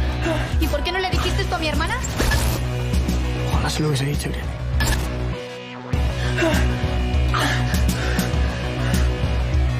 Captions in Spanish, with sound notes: ¿Por qué no le dijiste esto a mi hermana? Ojalá se lo hubiese dicho. (RESPIRA AGITADAMENTE)